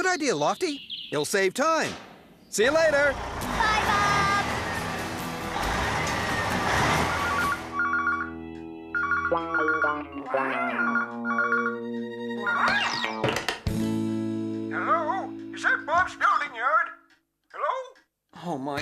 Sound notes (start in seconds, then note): 5.8 engine Running; 7.2 phone Ringing; 13.0 clunk!